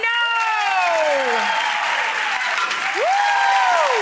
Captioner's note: audience cheers